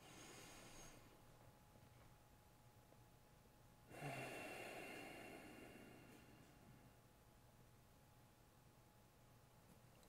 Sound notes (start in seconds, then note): 0.0 inhales; 3.9 exhales